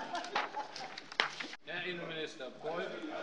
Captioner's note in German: Lachen bei der SPD